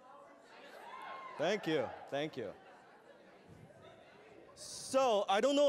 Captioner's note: wooh Wooh